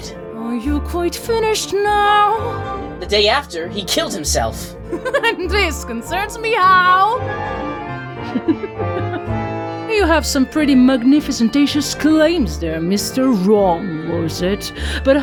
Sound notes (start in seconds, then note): 8.2 laughs